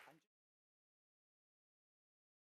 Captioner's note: clapping